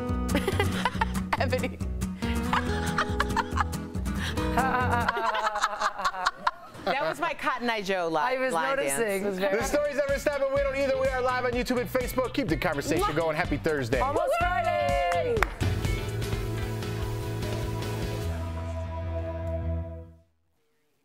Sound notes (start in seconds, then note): 7.6 laughter